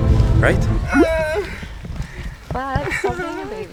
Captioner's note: whining